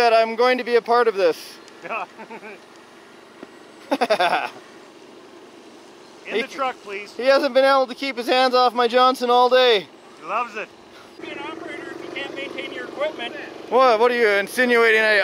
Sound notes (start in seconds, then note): 2.0 laughs